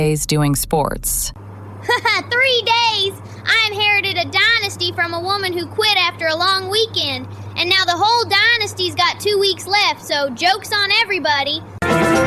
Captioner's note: laughs